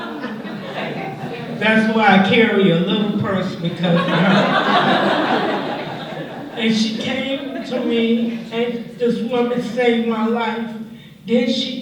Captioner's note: laughter